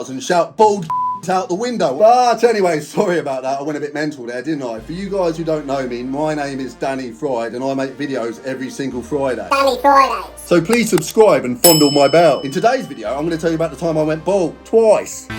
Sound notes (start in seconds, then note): 11.6 bell dinging; 15.2 upbeat music